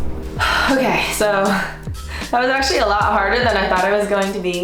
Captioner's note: sighs